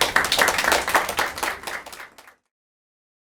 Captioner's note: applause